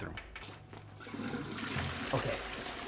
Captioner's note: toilet flushing